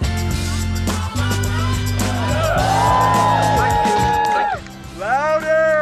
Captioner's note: cheering!